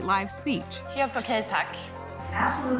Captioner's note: speaking foreign language